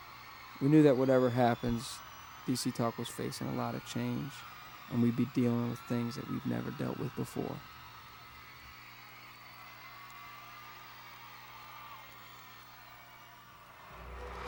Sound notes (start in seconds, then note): 8.8 audience cheers